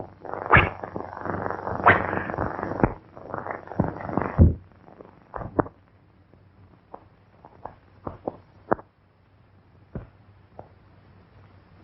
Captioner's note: pounding